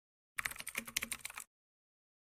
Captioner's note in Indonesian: suara mengetik